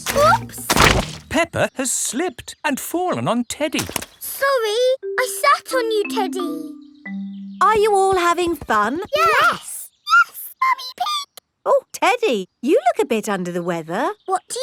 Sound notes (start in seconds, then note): 10.1 in high-pitched voice